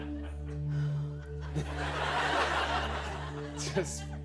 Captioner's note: laughter